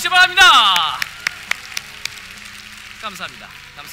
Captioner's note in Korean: 박수